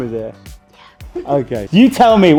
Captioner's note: whispering